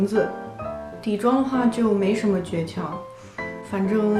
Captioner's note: inhale pause